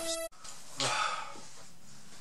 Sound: groan

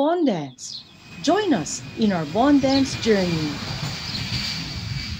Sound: airplane flying sounds

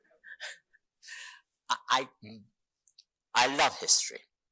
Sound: chuckles

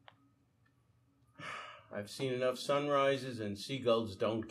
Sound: sighing

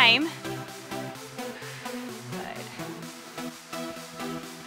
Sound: breaths

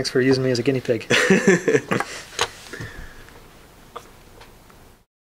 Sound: laughing

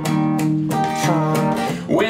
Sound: farts

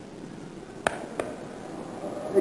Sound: backslap

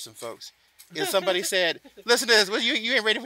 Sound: laughs

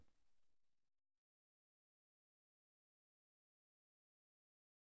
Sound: silence

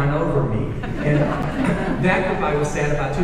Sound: audience laughing

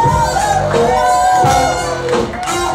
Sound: bluesy guitar solo plays over reggae music; cheering

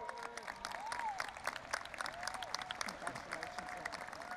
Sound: audience applauding and cheering

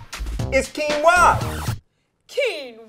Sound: record scratch

